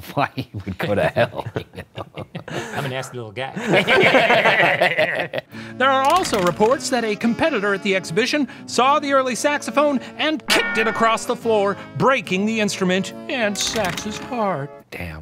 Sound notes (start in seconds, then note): 0.7 laughs; 1.9 laugh; 3.6 all laugh